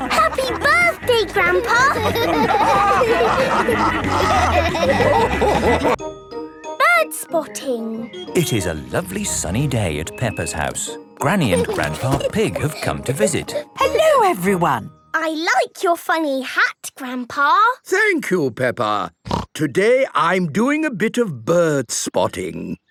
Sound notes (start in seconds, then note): 3.1 all laughing